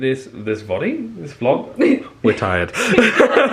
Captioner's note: laughs